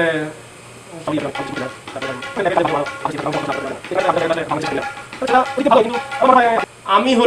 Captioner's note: indistinct chatter